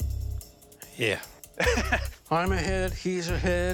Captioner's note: laughs